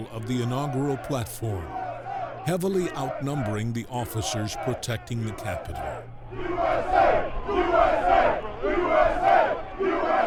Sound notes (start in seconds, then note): 6.0 crowd